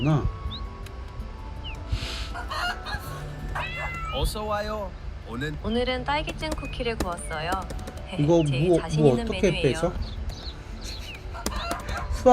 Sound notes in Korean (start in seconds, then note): 2.0 콧방귀